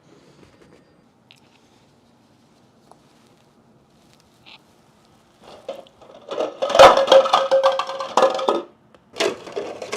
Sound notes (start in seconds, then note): 6.1 loud clattering